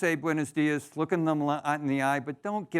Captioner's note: foreign language